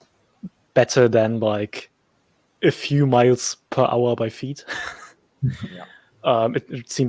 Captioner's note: chuckles